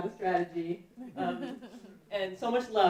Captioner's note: laughing